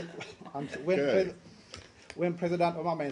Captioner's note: laughter